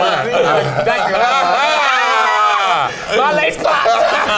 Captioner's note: group laughing; group continues laughing